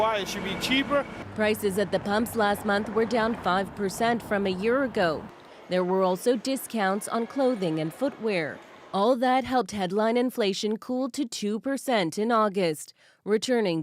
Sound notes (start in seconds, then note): none